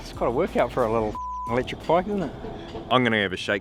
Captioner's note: beeps